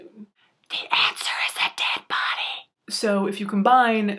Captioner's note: whispering